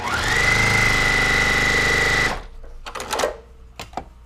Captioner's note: machine whirring